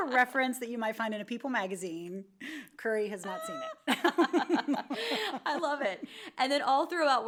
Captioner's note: laughs